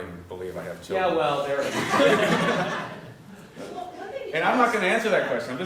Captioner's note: laugh